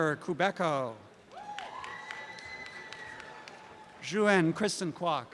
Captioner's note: applause and cheering